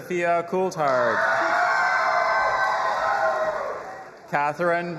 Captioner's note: audience applauding and cheering